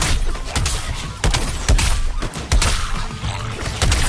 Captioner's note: guns firing